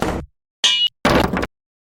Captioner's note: ding; slam; crashing sound